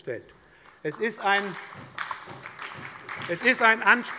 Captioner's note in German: Beifall bei der SPD